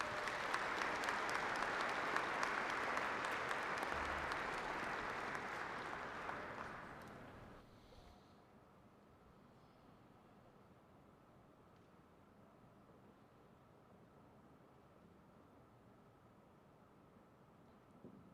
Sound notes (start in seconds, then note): 2.3 applause